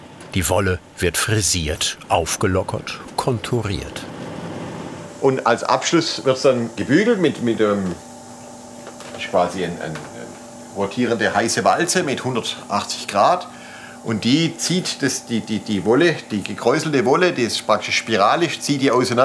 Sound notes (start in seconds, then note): none